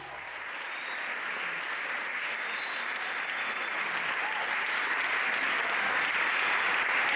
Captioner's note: aplausos